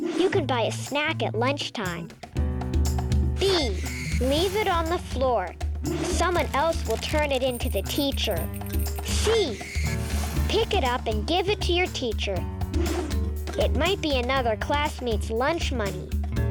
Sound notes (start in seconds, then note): 12.9 air whooshing